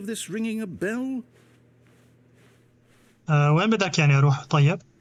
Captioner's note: footsteps